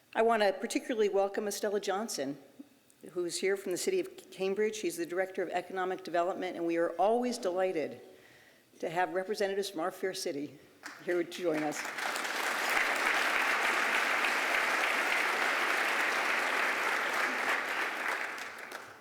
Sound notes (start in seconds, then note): 12.4 applause